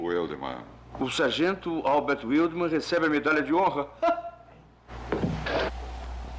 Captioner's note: laughs